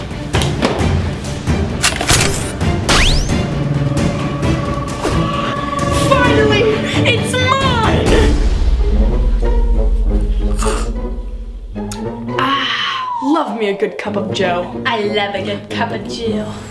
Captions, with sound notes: (intense music playing) (case unlatching) (radiating noises) - Finally! It's mine! (slurping) - Ah, love me a good cup of joe. - I love a good cup of joe. Ah!